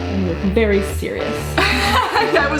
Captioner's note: laughter